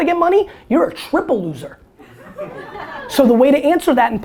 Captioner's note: audience laughter